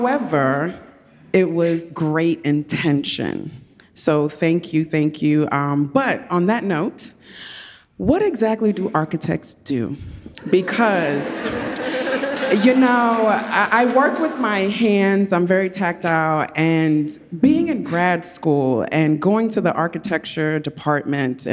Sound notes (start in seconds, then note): 10.4 audience laughs